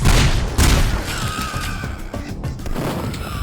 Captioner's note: pigcop death sound